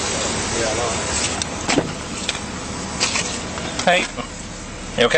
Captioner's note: door clicks open